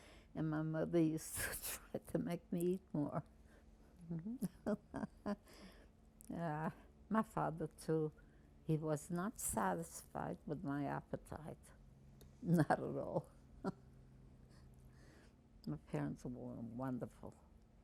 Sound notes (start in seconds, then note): 4.2 laughing